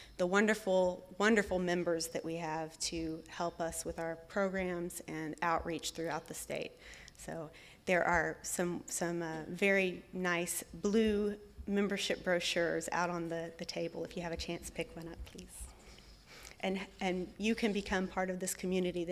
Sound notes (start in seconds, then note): none